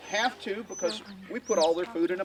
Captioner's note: chick chirping